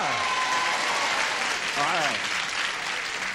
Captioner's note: cheering